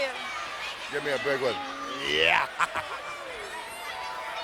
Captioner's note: laugh